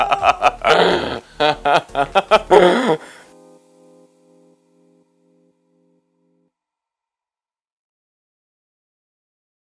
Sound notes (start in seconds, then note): 1.4 laughter